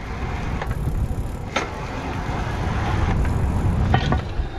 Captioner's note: chain clicking